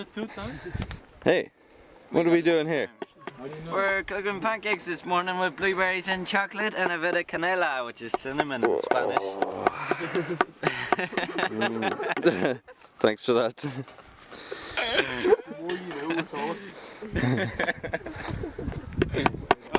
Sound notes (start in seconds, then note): 9.6 stoned hippie laughter; 14.4 more stoned hippe laughter